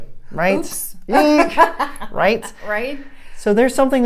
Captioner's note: laughs